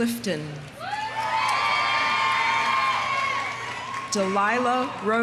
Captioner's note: audience cheering; audience applauding